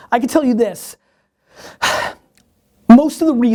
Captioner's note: sighing